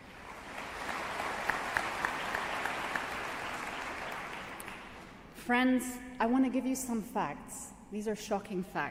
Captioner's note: applause